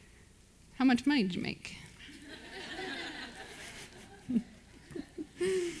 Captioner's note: audience laughs